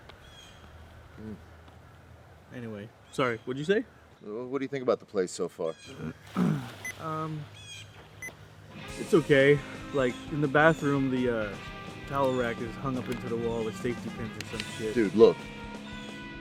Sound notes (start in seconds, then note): 6.8 phone beeping